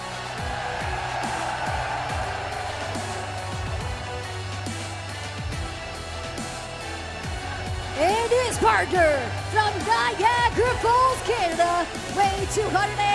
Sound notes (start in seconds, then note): 1.5 cheers & applause